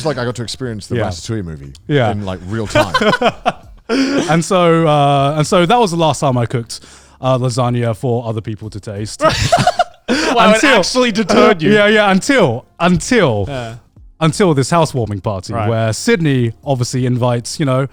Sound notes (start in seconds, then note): 2.2 laughing; 9.2 laughing